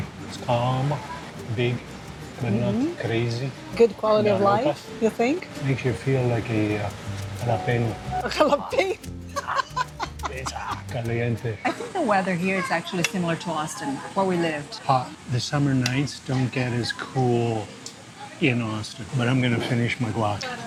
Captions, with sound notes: It's calm, big, but not crazy. - Good quality of life, you think? - Makes you feel like a jalapeño. - A jalapeño? - Hot. Hot. - (laughing) It's hot Hot [in Spanish] - I think the weather here is actually similar to Austin, where we lived. - Hot. The summer nights don't get as cool in Austin, but I'm gonna finish my guacamole.